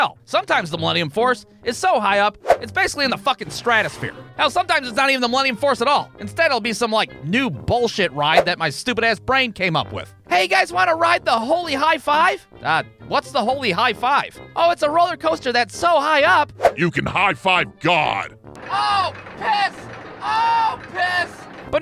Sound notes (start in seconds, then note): 16.8 in ominous voice